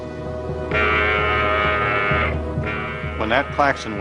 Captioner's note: alarm blaring